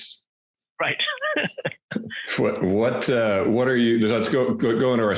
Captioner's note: laughs